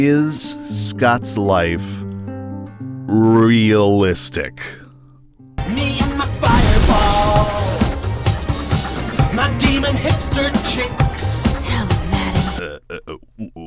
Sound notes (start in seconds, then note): 6.4 ssssss